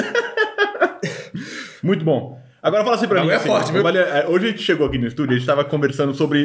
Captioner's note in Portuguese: risos